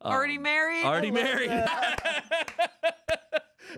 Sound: laughs

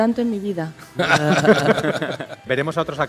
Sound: everyone laughs

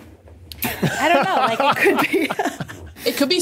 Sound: laughs

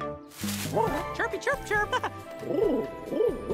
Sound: irritated cooing

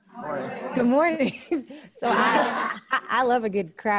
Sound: audience laughs

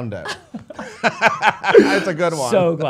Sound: laughs

